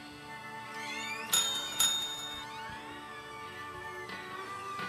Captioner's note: door chime ringing